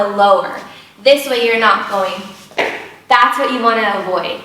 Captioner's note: shoe tapping